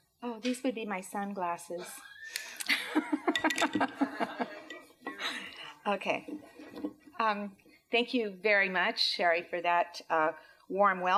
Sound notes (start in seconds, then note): 2.6 laughter